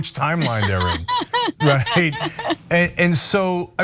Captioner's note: laugh